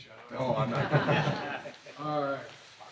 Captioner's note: laughter